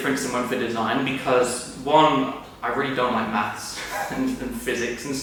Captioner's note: laughs